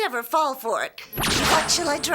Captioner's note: zaps